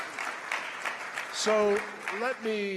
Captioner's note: applause